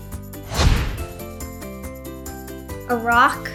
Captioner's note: screen whooshes